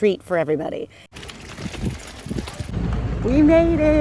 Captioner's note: bicycle tires cluttering